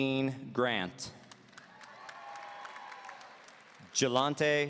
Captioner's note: audience cheering